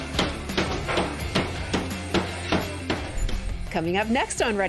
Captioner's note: tapping